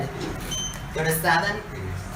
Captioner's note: beep